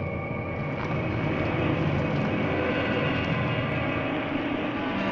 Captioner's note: wind howling